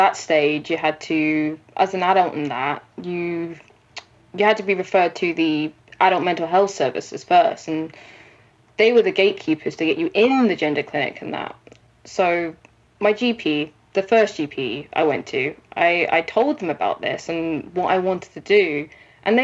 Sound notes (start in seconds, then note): none